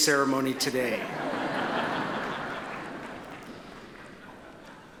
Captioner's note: attendees laugh